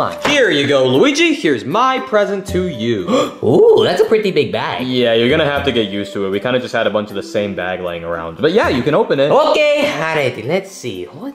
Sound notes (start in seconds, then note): 3.0 gasps